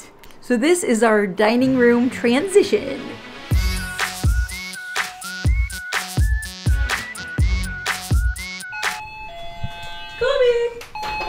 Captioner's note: doorbell